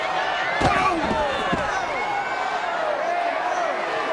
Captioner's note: CM Punk grunts